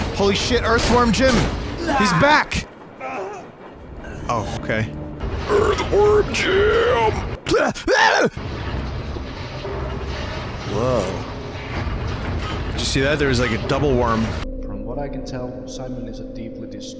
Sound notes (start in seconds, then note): 5.5 As the belch voice from Earthworm Jim; 7.4 shouts